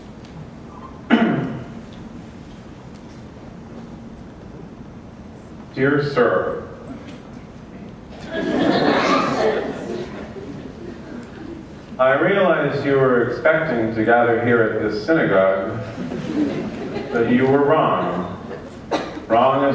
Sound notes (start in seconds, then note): 3.7 laughter